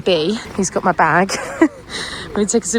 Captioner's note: laughs